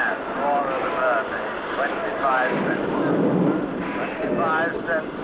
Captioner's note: thunder rumbling